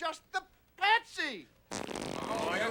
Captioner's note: farting sounds